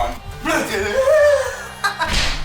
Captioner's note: laughs; screams